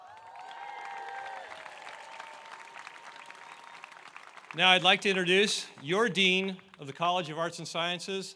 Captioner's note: applause